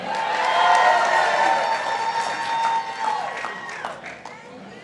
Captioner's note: participants applauding